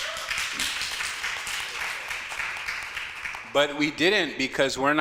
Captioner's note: audience clapping